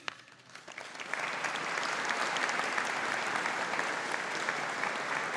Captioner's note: audience applauding